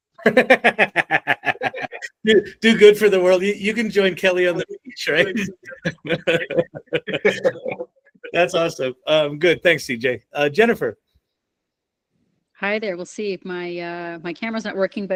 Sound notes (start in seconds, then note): 0.3 laughing; 5.8 laughing